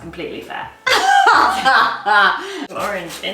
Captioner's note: laughs